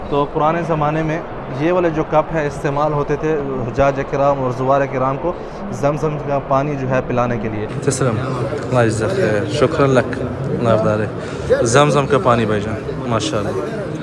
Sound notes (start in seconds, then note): 7.7 Arabic